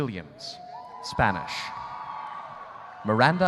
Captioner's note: audience cheering